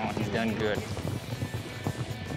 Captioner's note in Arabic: ضربات حوافر